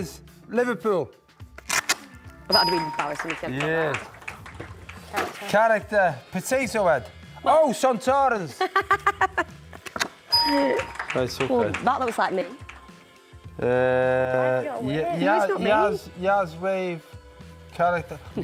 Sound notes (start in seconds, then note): 8.6 laughing